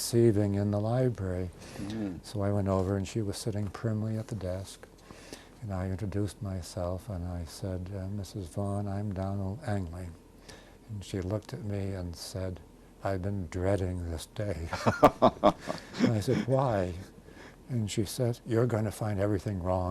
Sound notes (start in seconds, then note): 14.7 laughs